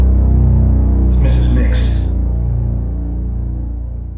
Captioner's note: echo